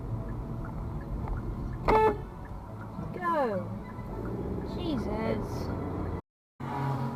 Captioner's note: car horn